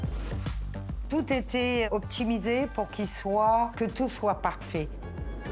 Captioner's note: bright energetic music; speaking French